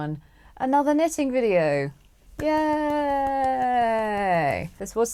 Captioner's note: gentle applause